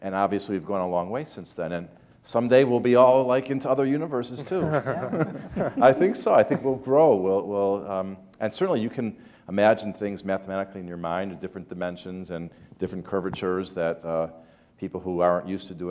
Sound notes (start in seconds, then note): 4.6 chuckle